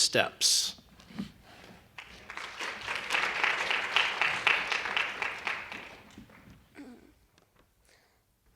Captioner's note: applause